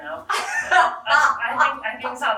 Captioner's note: laughing